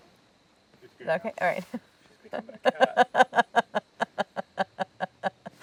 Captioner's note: Claire laughing